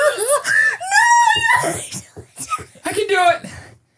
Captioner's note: high-pitch laughing